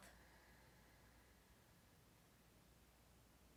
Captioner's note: exhales